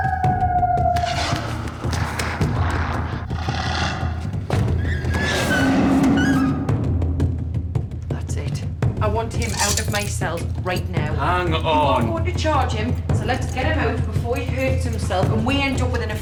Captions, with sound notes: [howling] [snarling] [growling] That's it. I want him out of my cell right now. -Hang on! -You're not going to charge him, so let's get him out before he hurts himself